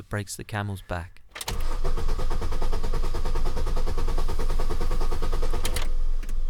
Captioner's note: turns ignition, car struggles to start